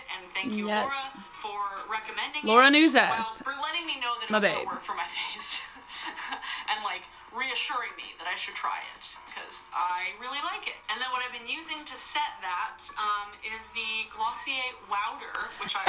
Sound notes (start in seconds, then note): 5.5 chuckling